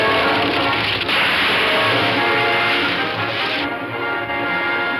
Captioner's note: tree crashing